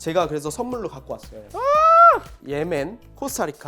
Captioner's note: excited Noises 2